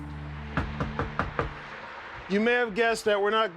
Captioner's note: knocking